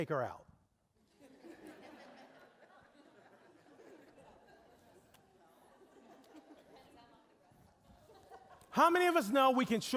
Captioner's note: audience laughing